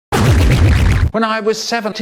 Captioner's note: fart